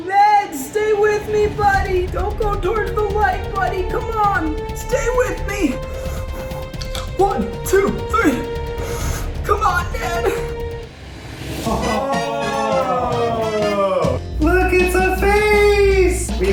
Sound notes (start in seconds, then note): 11.6 laughing confidently